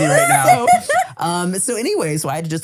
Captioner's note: laughing